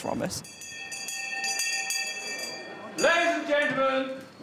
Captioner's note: ringing